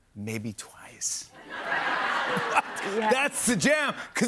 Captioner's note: laughter